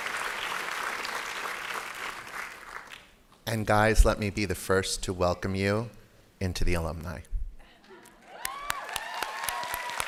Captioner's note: laughter; applause